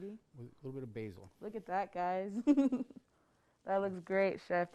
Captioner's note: laughs